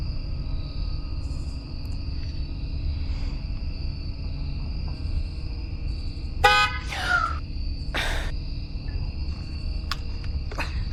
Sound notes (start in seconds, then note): 6.4 car horn beeps, Amber gasps